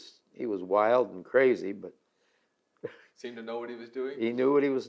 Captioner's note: laughs